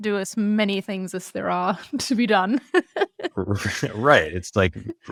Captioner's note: laughs